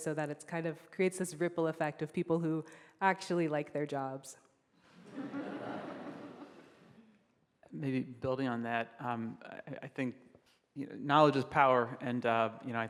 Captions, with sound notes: so that it kind of creates this ripple effect of people who actually like their jobs. (group laughs) - Maybe building on that, I think... Knowledge is power and, you know,